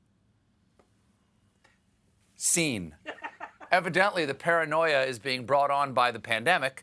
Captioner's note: laughter